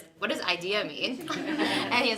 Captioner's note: laughing